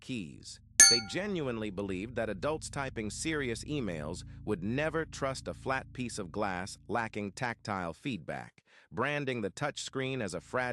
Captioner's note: SFX: sharp glass ping